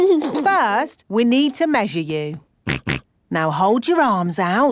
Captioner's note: snorts